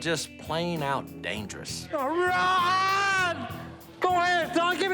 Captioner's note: yells